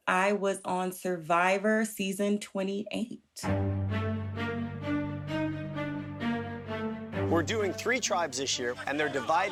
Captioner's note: soundbite of tv show, "survivor: cagayan"